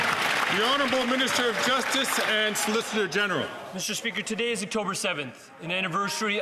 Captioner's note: some Applause